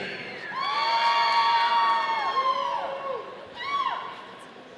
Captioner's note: audience cheering